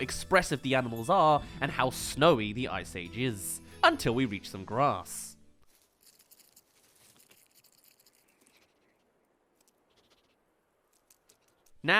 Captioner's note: grass* *Sniffing